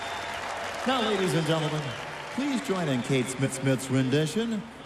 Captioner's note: cheers and applause